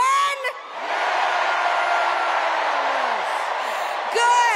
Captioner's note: cheers and applause